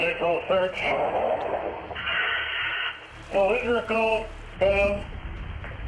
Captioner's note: radio hisses